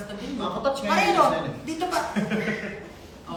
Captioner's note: laughs